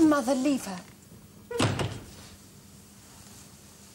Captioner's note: door slams